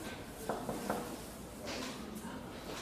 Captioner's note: knocking